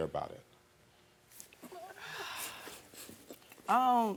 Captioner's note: crying